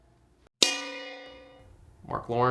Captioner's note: bell dings